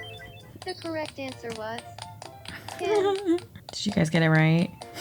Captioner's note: game audio; laughter